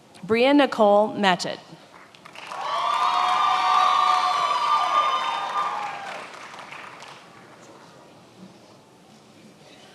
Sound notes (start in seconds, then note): 2.2 attendees applauding and cheering